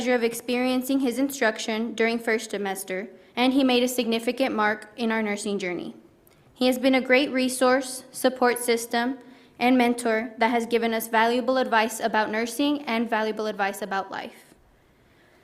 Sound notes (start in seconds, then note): none